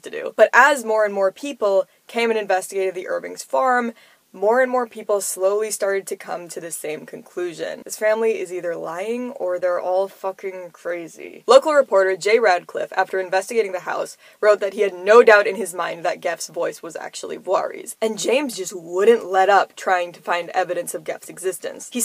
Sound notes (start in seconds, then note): 9.2 lowered voice